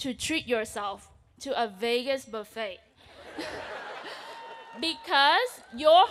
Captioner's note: audience laughs